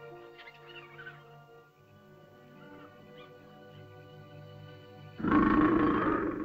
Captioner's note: sentimental music; small animal chitters; large animal growls